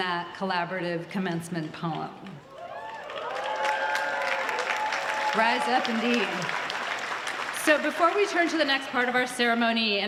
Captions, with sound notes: for participating in that collaborative Commencement poem. [Applause] Rise up indeed. So before we turn to the next part of our